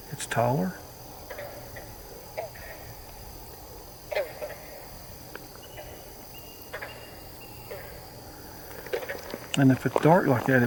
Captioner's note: katydids forest sounds